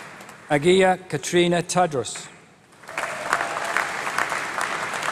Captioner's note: applause